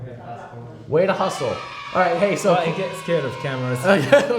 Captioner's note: kids cheer